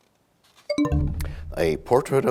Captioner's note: bell chimes, time expires